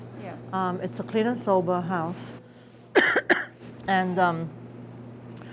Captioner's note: coughing